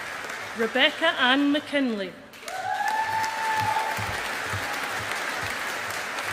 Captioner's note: audience applauding